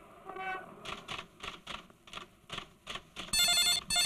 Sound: typewriter keytop clacking; phone ringing

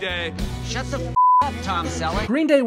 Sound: beep

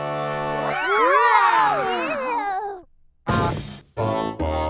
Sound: babies exclaiming in awe

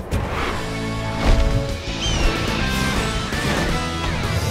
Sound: squawking

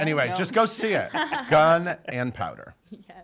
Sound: laughing

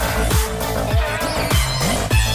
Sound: clap

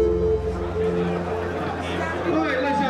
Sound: crowd talking

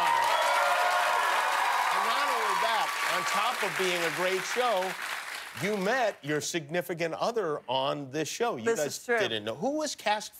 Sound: cheers and applause

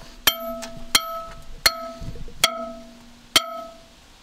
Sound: hammer clanging

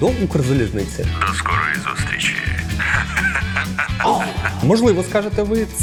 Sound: laughter

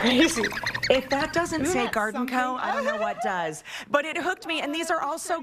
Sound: chirping

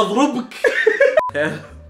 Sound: laughs

